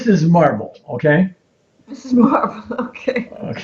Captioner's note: chuckling